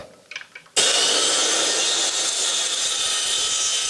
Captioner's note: circular saw sound